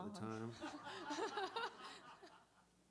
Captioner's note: laughter